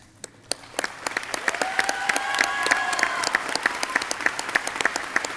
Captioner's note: audience clapping